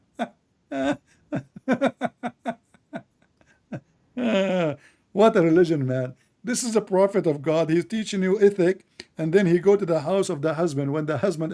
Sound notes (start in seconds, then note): 1.2 Ketawa